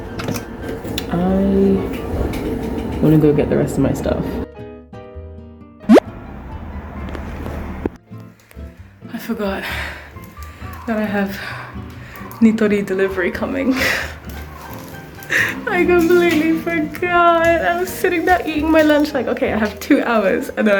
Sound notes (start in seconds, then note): 9.5 huff; 10.4 pant